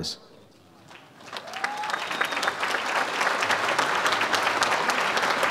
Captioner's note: audience applauds